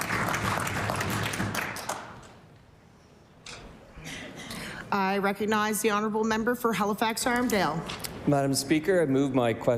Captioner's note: cheering/Applause